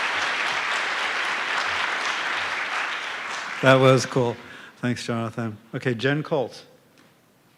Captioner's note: applause